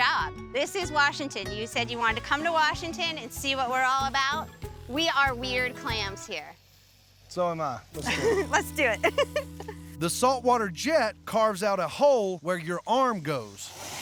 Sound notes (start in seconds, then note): 8.0 laughing